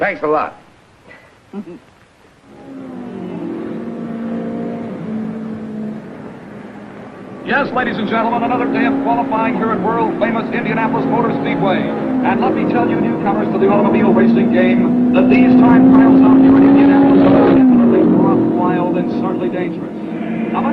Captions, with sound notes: Thanks a lot. (Mary chuckling) (engines revving) - Yes, ladies and gentlemen, another day of qualifying here at world-famous Indianapolis Motor Speedway. And let me tell you newcomers to the automobile racing game that these time trials I'm viewing in Indianapolis are indeed rough, wild, and certainly dangerous.